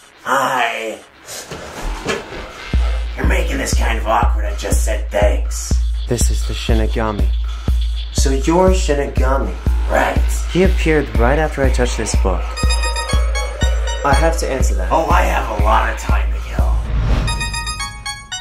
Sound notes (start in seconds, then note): 12.4 Light's weird fucking ringtone going off